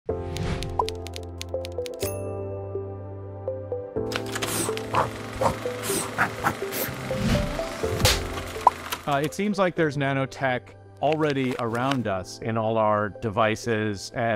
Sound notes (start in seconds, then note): 0.1 bubbly music; 0.3 keyboard clicking; 2.1 air whooshing; 2.1 bell ringing; 8.3 wood clicking